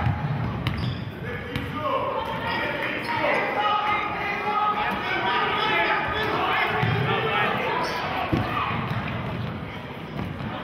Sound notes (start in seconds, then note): 2.7 yelling